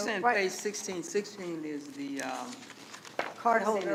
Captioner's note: pages rustling